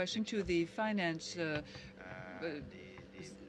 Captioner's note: speaking French